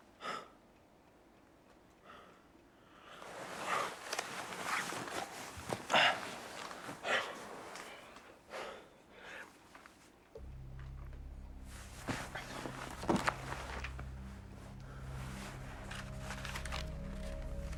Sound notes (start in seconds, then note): 0.2 gasps; 6.0 breathes heavily; 10.3 suspenseful music